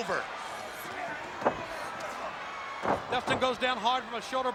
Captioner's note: body thudding